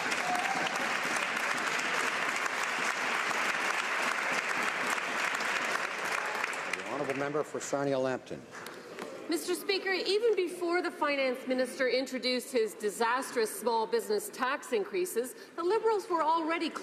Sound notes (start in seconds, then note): 1.5 some Applause